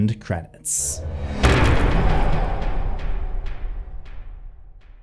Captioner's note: impact